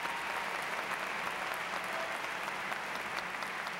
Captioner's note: applause